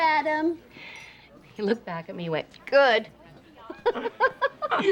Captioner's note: laughs